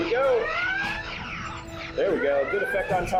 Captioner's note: phasers firing; sirens blaring in simulation